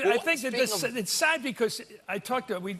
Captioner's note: laughter